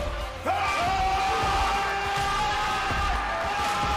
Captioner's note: wrestlers screaming; wrestlers cheering